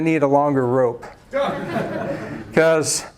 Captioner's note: laughs